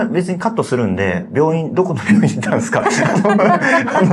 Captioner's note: laughs